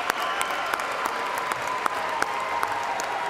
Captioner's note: cheers and applause